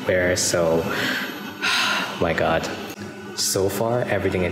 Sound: sigh

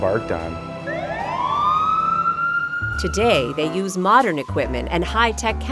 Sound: fire siren

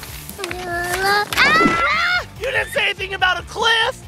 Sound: horse neighs; screaming

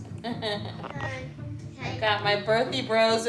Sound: laughs

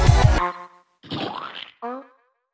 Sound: splat.mp3

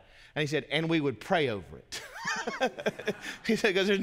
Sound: laughs

